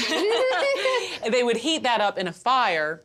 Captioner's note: Pati and Vivian laugh